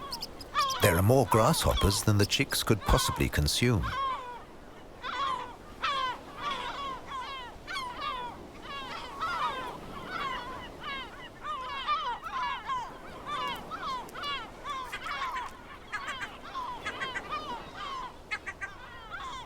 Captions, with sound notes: There are more grasshoppers than the chicks could possibly consume. (gulls cawing)